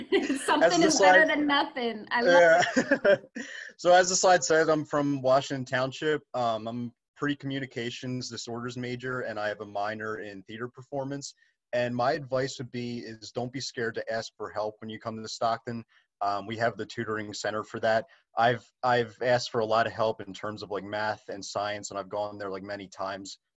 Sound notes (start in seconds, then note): 2.2 laughter